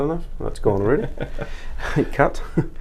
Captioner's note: laughing